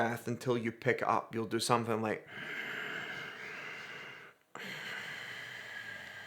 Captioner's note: breathes heavily